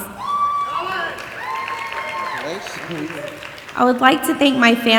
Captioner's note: audience applauding and cheering